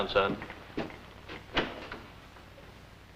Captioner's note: door opens